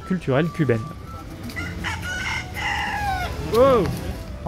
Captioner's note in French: cri du coq